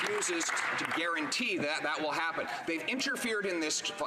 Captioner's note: some Applause